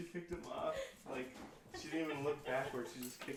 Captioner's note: laughs